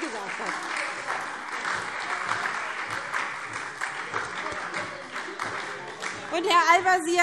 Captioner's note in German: Beifall SPD und Freie Demokraten